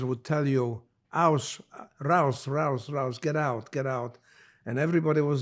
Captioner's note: german